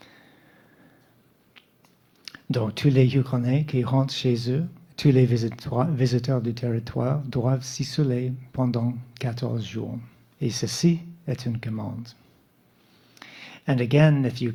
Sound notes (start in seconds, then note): 3.4 speaking French